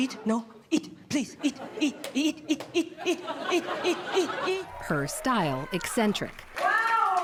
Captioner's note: laughter